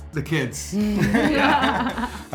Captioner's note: both laugh